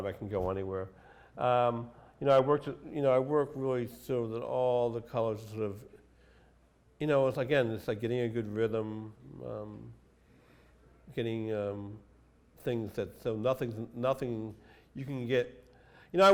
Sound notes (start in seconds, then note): none